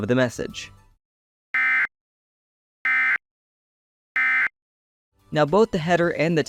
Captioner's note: beep, beep, beep